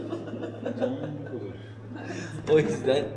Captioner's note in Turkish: kahkaha